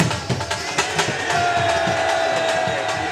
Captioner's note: boos